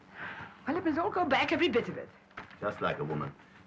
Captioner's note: sighs